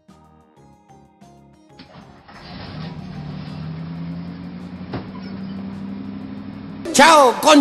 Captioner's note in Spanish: sonidos culiaos penca del camión echando a andar